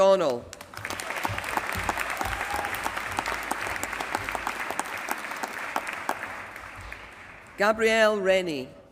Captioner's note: applause